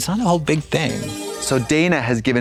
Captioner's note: bright chime